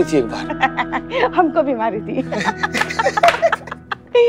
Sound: laughs

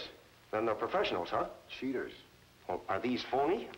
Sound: none

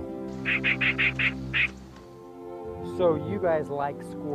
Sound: squirrel chittering

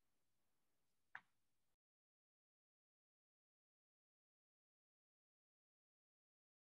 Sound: silence

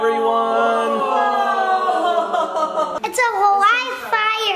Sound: everyone whoaing

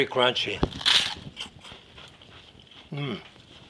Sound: meringue crunches

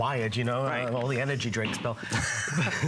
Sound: laughter

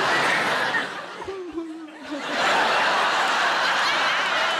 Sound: audience laughing

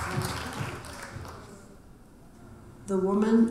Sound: audience applauding

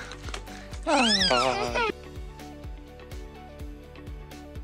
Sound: laughs; baby squeals

